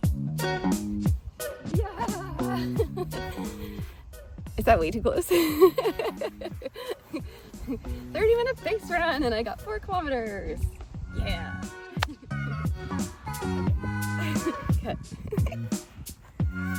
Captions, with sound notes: Yeah. Is that way too close? 30 minute base run, and I got 4 kilometers. Yeah. *Endorphin-fuelled giggling* Cut.